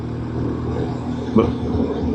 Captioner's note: engine